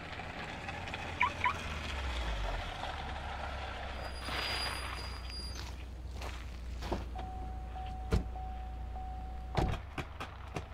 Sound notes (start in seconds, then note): 1.3 beeping; 4.3 squeaking brakes